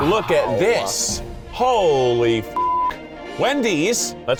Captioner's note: beep